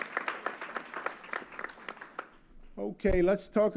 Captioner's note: applause